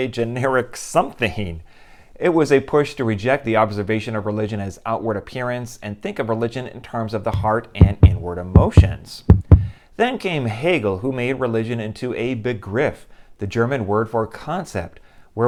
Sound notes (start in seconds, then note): 9.3 heart beating